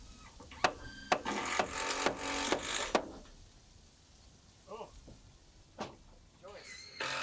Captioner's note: drill grinding; hammer banging